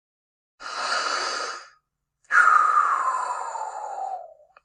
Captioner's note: breathing